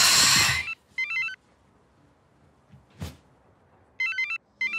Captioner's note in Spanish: Suena el teléfono